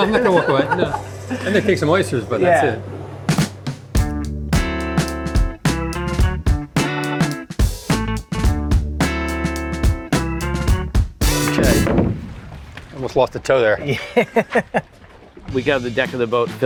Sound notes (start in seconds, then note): 3.9 upbeat music; 13.8 laughs